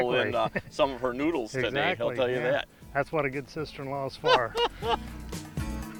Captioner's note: laughing